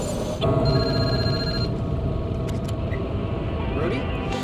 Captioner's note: phone ringing